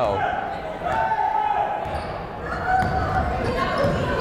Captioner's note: yelling